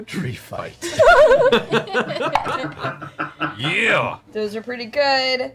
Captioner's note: all laugh